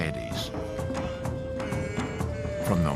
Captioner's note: chanting